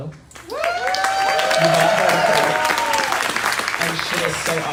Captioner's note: crowd cheering